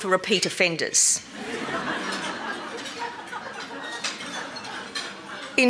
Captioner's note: laughter